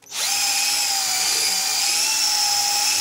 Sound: whirring noise

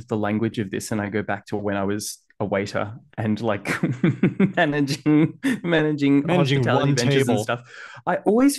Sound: laughs

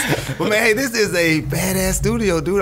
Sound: scattered laughs

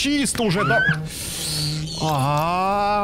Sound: grinding

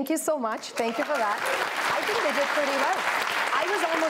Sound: applause

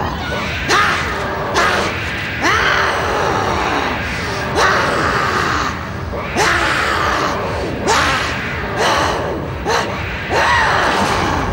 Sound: grunts

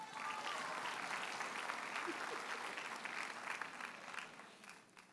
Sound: audience cheers and applauds

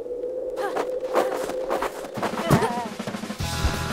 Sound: running, panting; upbeat surf music

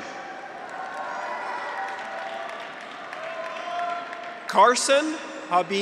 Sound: graduates cheer; audience applauds

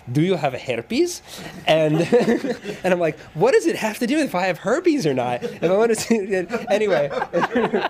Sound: laughs

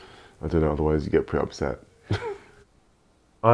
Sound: chuckles

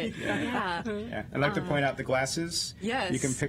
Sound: laughter

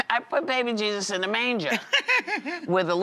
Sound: laughs

